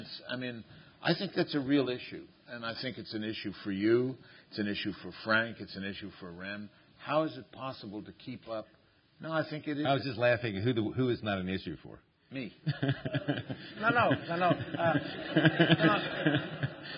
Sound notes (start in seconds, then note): 12.6 laughs; 14.7 laughter